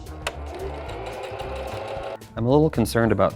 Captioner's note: sewing machine whirring